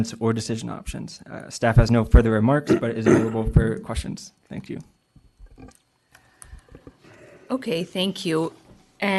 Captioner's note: clears throat